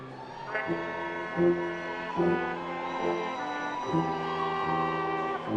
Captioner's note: attendees cheering and applauding